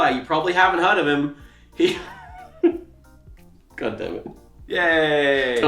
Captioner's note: laughs